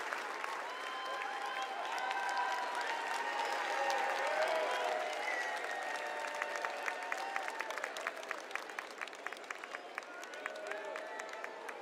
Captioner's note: cheers and applause